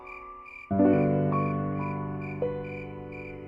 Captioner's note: crickets chirping; gentle music